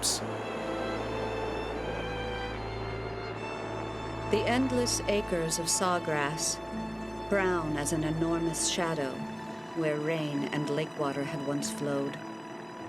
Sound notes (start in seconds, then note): 2.3 plane engine humming